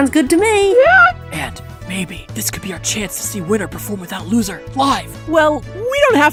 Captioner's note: whispering